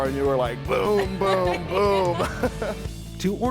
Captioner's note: laughing